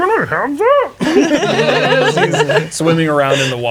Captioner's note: players laughing